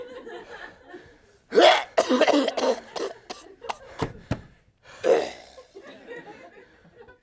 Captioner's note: coughing